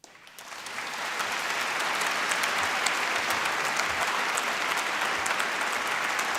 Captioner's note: applause